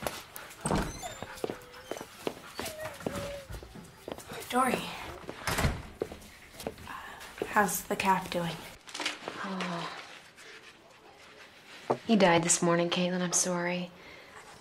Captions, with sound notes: (door creeks) - Dori. How's the calf doing? - Oh. He died this morning, Caitlin. I'm sorry.